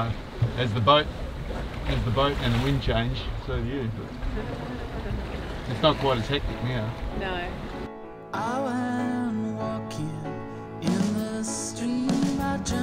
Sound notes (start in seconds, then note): 4.2 laughs; 7.9 upbeat music